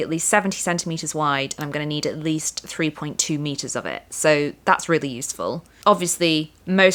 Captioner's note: none